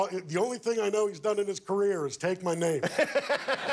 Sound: laughter

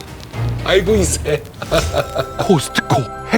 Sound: laughing

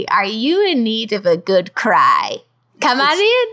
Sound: none

